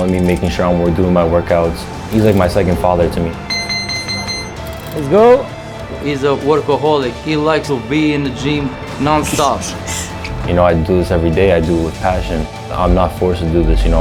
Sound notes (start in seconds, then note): 3.4 bell ringing